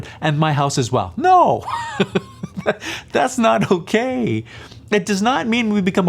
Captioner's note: laughs